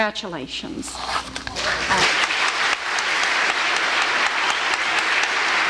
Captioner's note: applause